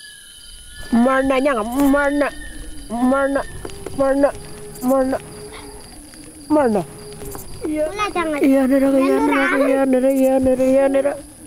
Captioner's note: speaking Aboriginal language